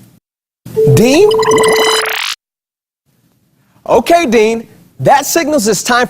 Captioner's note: buzzer sound